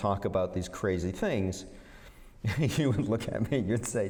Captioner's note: laughter